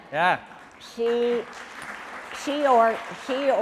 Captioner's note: audience applauding